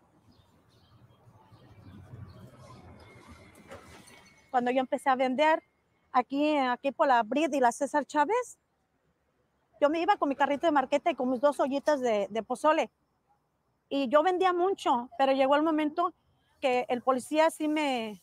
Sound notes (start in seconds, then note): 1.2 bus engine roaring; 4.5 speaking in foreign language